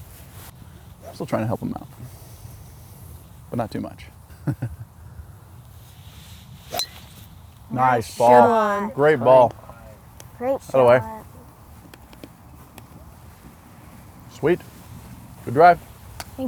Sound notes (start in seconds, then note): 4.8 laughs